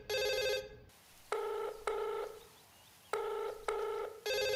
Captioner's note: Phone rings; Line ringing; Phone rings